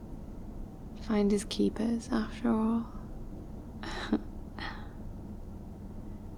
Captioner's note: sleepy laugh